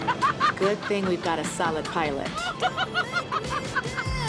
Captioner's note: laughs